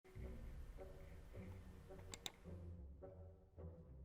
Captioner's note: funny mouse click